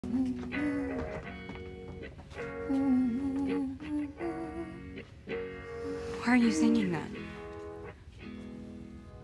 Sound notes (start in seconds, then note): 2.5 humming